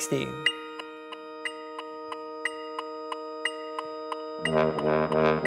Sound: metronome beats

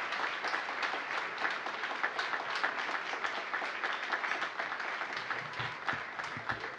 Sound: applause

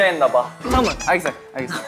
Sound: patting

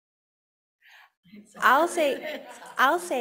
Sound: panel chattering softly and laughing

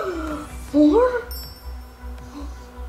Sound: gasping; sparkling

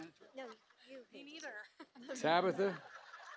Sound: laughter

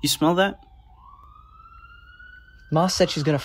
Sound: distant siren

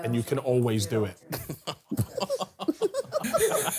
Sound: laughing

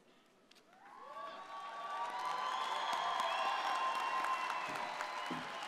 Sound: audience applauding

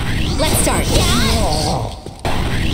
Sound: growls in fear

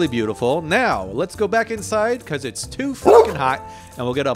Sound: barking

